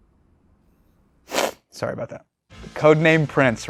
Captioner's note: sniffs